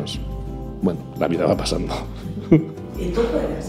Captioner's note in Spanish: Risas